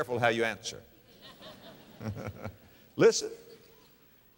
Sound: audience laughter

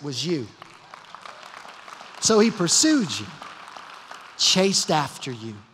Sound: applause

